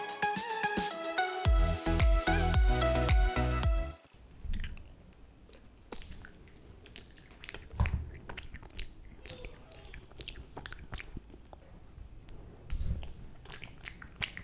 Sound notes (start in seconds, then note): 0.0 upbeat music; 5.4 chewing honey comb; 7.2 smacking